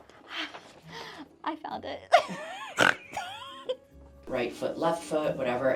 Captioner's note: relieved, joyous snort